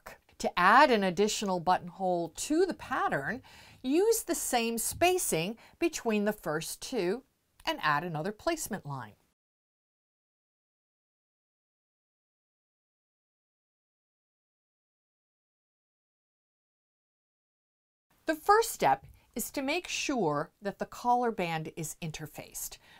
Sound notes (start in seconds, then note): 9.2 no Sound Present